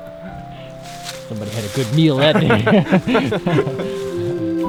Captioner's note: both laughing